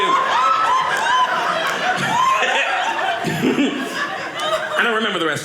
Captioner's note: audience laughing